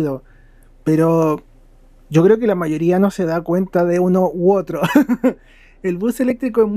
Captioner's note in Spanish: risas